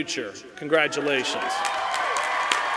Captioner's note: cheering; applause